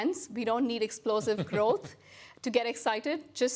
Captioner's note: laughs